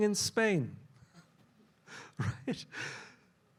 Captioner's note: laughs